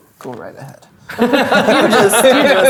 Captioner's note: players laughing